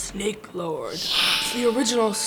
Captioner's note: hissing